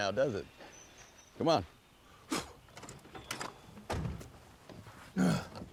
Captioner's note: solomon spits, doors open; solomon groans, casey laughs